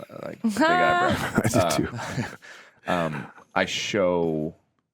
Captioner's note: laughs